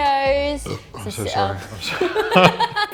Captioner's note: burps; laughing